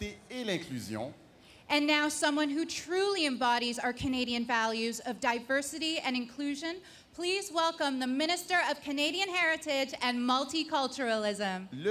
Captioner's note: speaking French